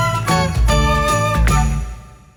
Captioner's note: powering on sound